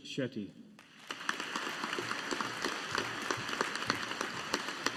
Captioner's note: audience applauding